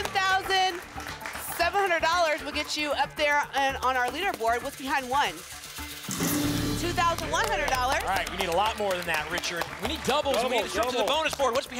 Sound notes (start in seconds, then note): 2.8 applause and cheering cont